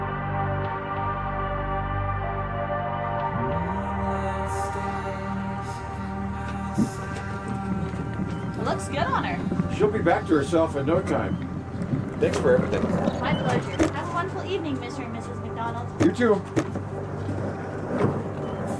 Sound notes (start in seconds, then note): 13.4 wheels squeaking; 16.0 light thudding